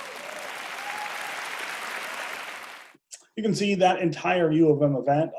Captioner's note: audience cheering and clapping